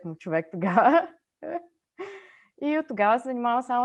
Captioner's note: laughs